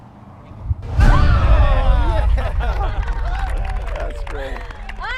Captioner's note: applause